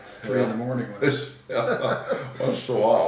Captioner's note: laughing